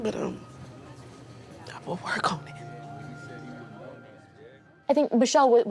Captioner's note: none